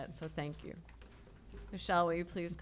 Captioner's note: none